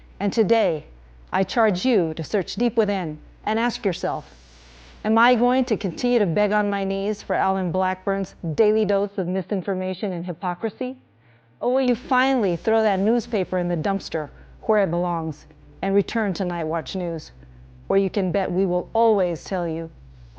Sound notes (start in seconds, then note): none